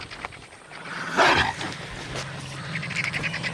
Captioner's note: growling and snarling